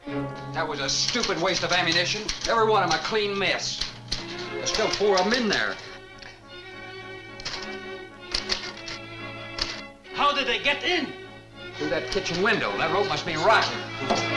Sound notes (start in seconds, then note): 8.3 typewriter clacks